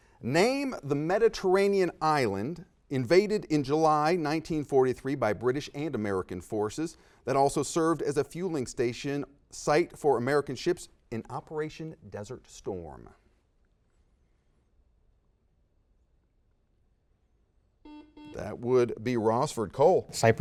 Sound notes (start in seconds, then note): 13.2 silence; 17.8 series of beeps